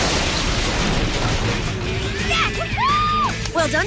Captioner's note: crash